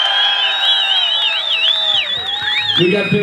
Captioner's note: crowd cheers